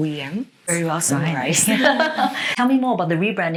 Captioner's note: both laughing